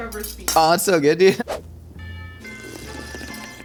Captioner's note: air whooshing; whimsical music; slurping